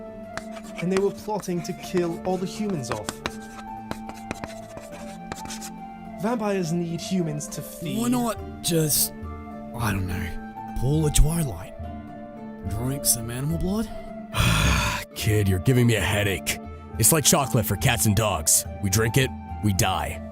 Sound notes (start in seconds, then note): 14.3 groans